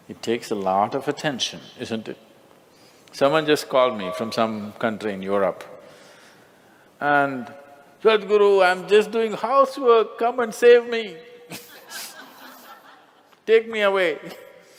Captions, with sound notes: It takes a lot of attention. Isn't it? Someone just called me from some country in Europe. and "Sadhuru, I am just doing housework, came and save me." (Laughter) Take me away....